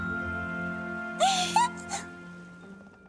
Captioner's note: squeak